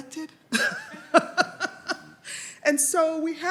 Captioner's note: laughs